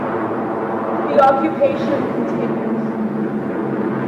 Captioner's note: heavy aircraft sounds, gunfire